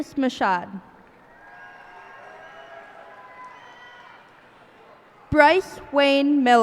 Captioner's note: cheers and applause